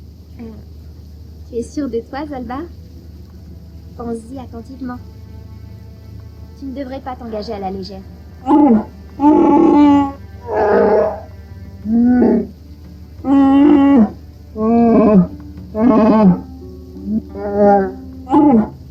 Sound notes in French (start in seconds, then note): 8.5 en Shyriiwook